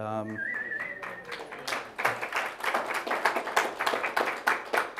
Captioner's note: audience applause